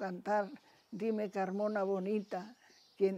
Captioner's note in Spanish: recita